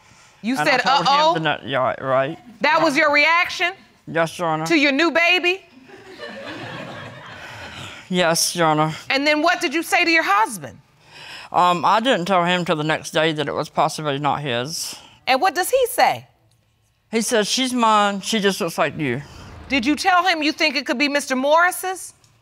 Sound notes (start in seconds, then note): 5.8 audience laughs; 6.1 sighs